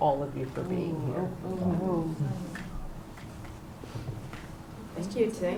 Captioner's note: non-english